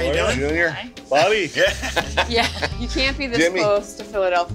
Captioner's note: laughing